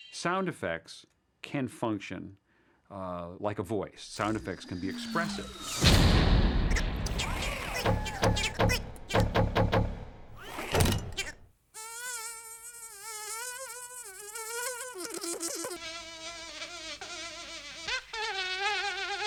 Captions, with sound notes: Sound effects can function like a voice. Sound effects can be expressive. (CRASHING) (CHATTERING) (BANGING) Uh-oh. (SOUND OF INSECT BUZZING) (FLY BUZZING)